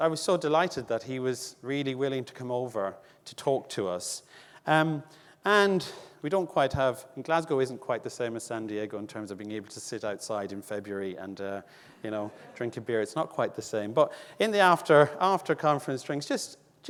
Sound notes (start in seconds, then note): 11.1 audience laughing